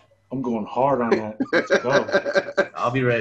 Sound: laughs

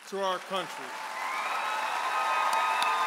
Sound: audience applauds and cheers

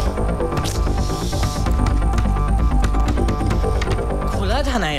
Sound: door knocking

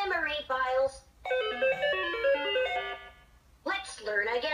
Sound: malfunctioning sounds

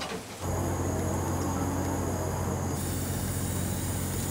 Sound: engine revving

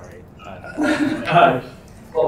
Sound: laughing

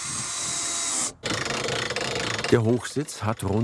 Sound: loud whirring, rattling

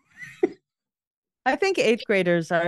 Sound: laughter

